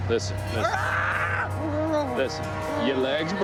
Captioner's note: groaning